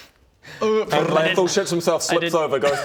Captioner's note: brrrr